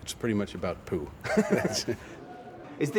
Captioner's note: both chuckle